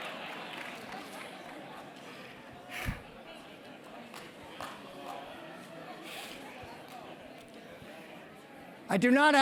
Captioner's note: laugh